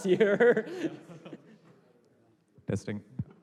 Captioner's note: laughter